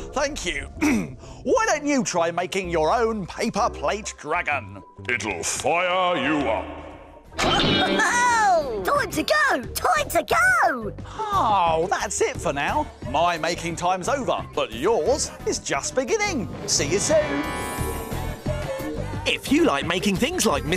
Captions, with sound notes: Why don't you try making your own paper plate dragon? It'll fire you up... (exclaims) Time to go! Time to go! Oh, that's it for now. My making time's over but yours is just beginning. See you soon.